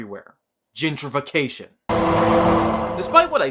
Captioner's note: Law and Order Noise